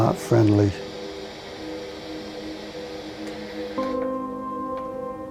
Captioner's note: electronic static hissing; soft eerie music